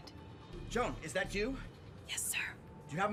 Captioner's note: none